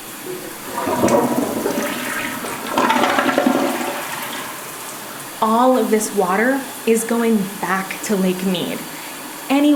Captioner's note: sound of running water